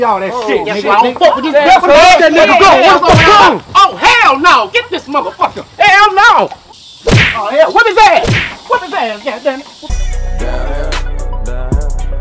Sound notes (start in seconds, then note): 3.8 shy screams; 7.0 kick thumping